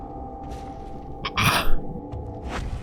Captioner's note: stunned choking sounds